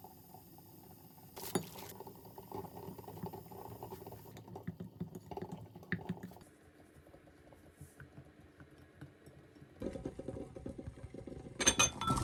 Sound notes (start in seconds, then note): 4.6 sorry for the Boiling egg noise